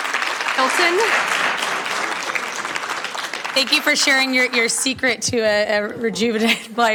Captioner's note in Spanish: Aplausos